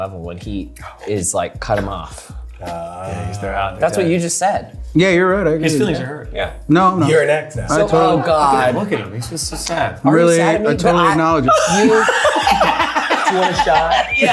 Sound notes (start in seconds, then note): 11.4 people laughing